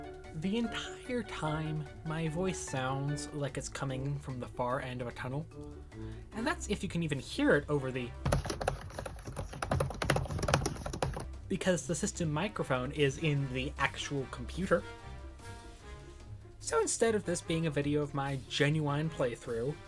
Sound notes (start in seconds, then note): 8.2 intense keyboard sounds